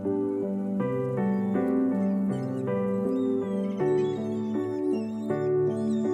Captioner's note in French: cris de mouettes